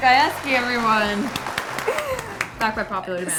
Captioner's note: clapping